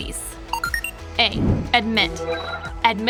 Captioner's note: digital beeping